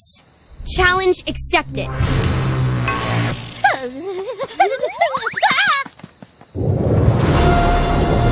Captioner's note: thunder